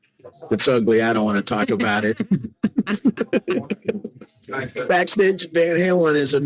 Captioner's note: laughing